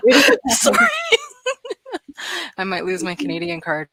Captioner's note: laughs